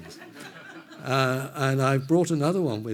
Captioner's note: everyone laughs